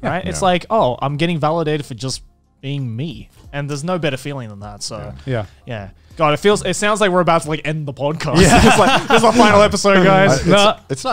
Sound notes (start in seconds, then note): 8.3 laughter